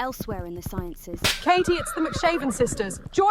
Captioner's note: whip cracks; horses neigh